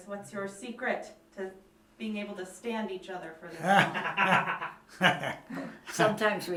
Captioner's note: laughter